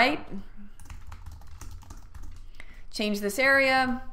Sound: typing on keyboard

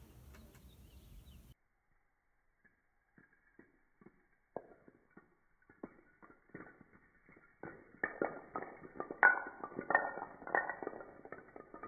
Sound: dominoes in slow motion

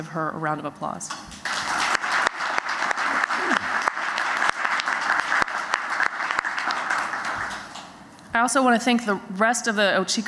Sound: applause

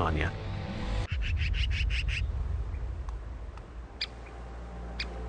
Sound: birds calling

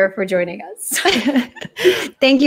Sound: both laugh

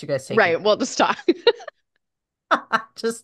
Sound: laughs

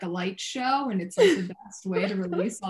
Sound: laughing

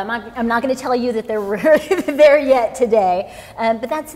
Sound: chuckling

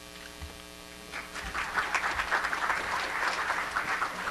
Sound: applause

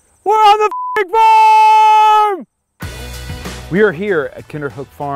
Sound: beep

